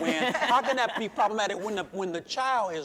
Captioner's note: chuckling